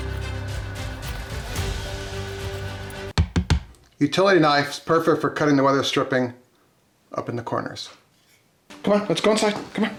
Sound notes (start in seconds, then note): 0.0 upbeat music; 3.4 knife knocks